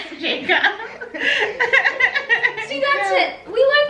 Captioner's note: everyone laughs